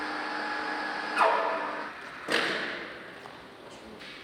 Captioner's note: creaking, clattering